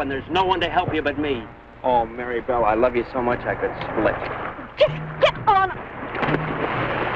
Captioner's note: water splashing